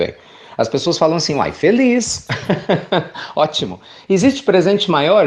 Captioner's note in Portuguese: Risos